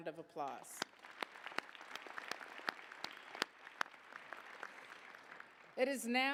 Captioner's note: applause